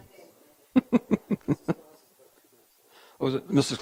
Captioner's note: giggling lightly